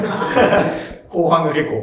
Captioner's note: laughing